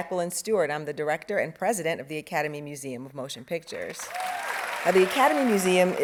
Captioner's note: audience applauding